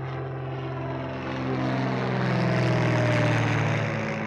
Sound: plane roaring

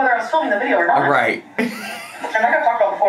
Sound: laughs

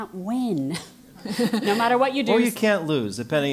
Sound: laugh

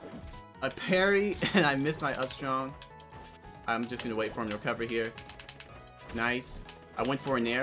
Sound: laugh

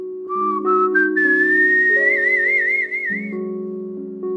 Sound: whistling

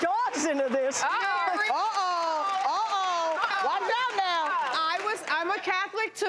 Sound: everyone exclaiming

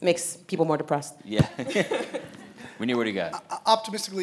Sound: audience laughing; laughing

